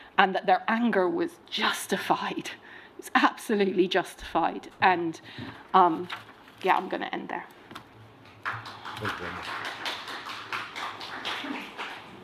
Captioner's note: applause